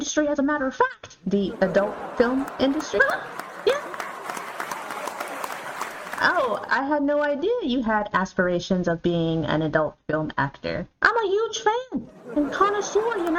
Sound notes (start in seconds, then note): 1.3 audience laughter; 4.8 giggles